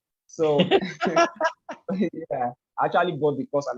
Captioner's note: laugh